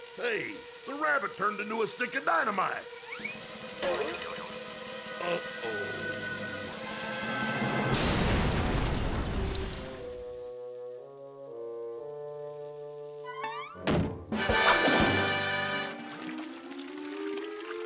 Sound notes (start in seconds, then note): 0.0 fuse hisses; 3.2 fuses hissing; 8.0 explosion booms; 9.5 gentle wistful music; 13.6 hand thuds; 14.7 triumphant music